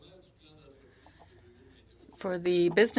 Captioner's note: speaking French